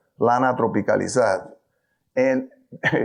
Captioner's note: speaks in foreign language